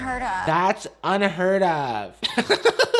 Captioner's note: laughing